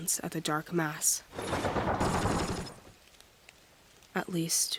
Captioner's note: rapid gunfire